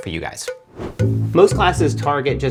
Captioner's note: air whips